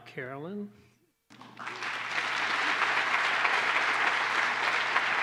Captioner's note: applause